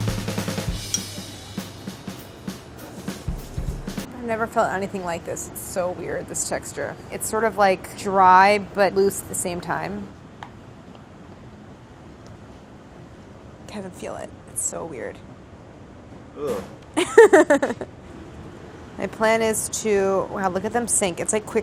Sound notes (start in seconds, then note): 0.0 upbeat jazzy music; 17.0 laughs